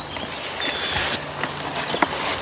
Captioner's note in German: Vogelgezwitscher